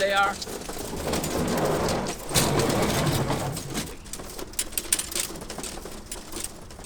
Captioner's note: wings rustling; crate scraping; wings rustling